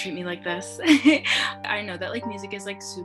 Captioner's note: giggles